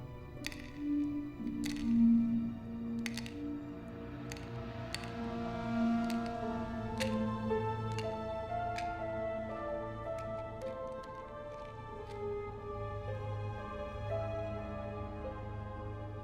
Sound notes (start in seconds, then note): 0.9 medicines clatter; 9.6 suspenseful music